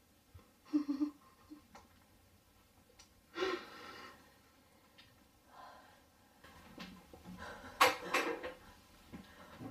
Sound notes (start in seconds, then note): 0.6 sobbing; 3.7 sobbing; 6.1 rustling sound; 8.4 clattering sound